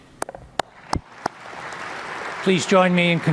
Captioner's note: audience applauding